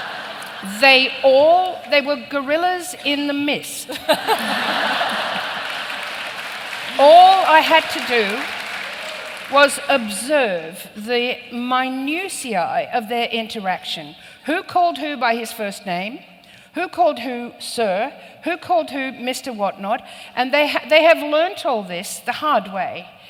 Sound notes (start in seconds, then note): 3.9 laughter and applause